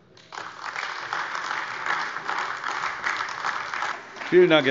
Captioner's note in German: Beifall AfD